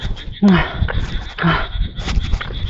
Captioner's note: panting